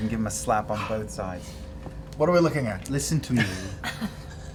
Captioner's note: huffs